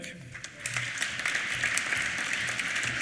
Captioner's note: applause